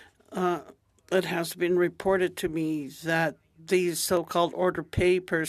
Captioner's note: speaking Alternate Language